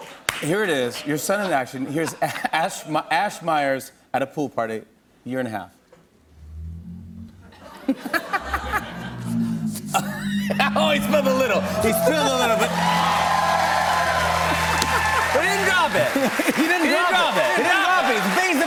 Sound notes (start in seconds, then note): 7.6 laughter; 13.2 cheers and applause